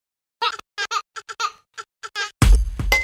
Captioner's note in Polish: śmiech dziecka; rytmiczna muzyka